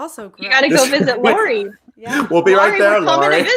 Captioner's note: laughs